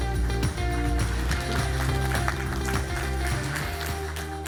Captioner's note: audience applauding